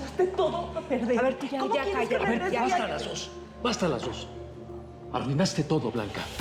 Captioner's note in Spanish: Hablan al unísono